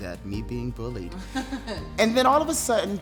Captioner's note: laughs